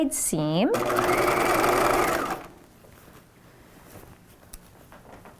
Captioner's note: machine whirring